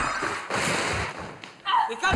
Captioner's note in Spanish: grita